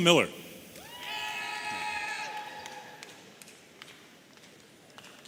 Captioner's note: audience cheering